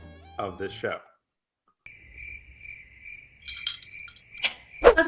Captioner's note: crickets; straw clanking